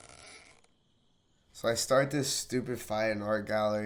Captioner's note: voiceover